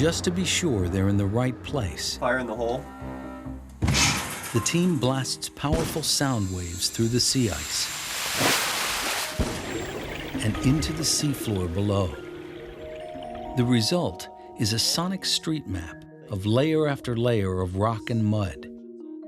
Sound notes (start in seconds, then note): 3.8 loud thump; 7.5 water welling up